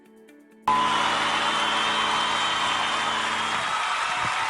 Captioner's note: audience cheers